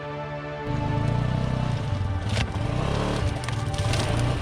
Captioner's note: engine humming